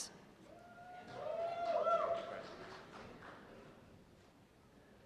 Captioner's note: cheers and applause